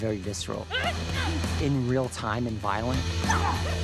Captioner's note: Kara grunts; both grunting